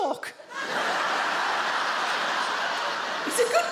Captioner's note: audience laughs